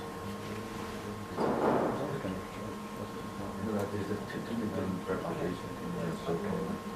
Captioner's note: audience murmering off camera